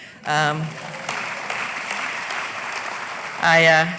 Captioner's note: applause